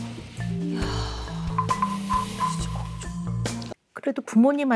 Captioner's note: they just sigh